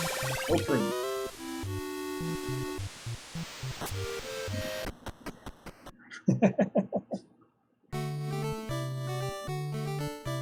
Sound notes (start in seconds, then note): 6.1 chuckles